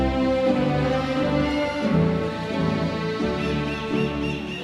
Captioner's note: audience cheering